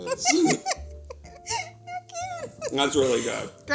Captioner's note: laughs